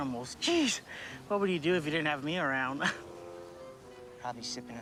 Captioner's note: chuckling